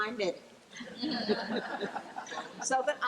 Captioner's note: laughing